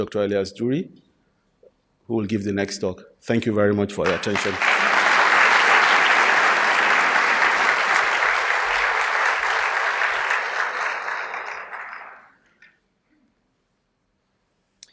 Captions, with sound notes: DR. ELIAS DURRY, WHO WILL GIVE THE NEXT TALK. THANK YOU VERY MUCH. [ APPLAUSE ]